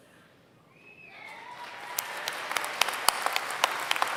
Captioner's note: applause